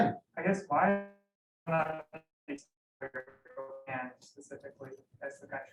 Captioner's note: audio dropping